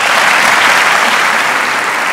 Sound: clapping

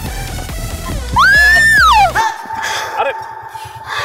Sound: Natasa screaming

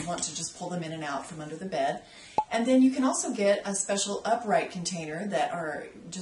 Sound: pop

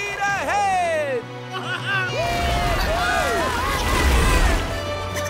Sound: cheering

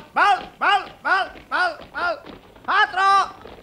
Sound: laughs

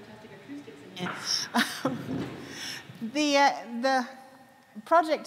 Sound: laughs

